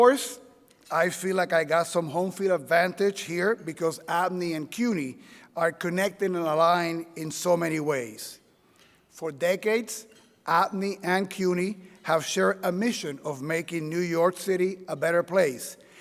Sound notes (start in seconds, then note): none